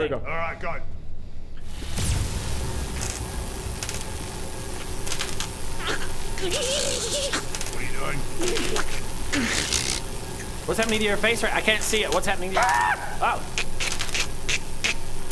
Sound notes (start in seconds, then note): 2.9 mild electrocution sounds